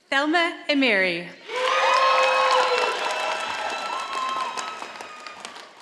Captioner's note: audience applauding